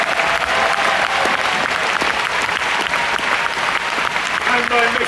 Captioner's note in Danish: Bifald